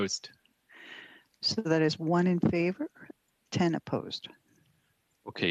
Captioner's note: speaking french